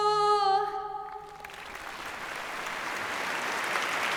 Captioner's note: applause